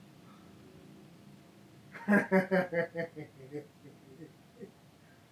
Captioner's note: Warren laughs